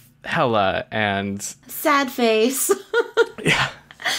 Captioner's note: laughs